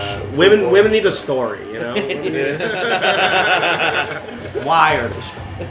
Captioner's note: laughter